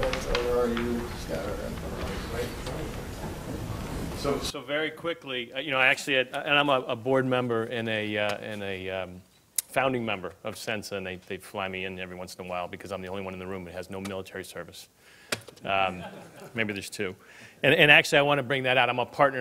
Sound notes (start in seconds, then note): 15.8 laughing